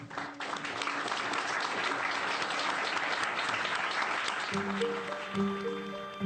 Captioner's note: audience applauding; tense music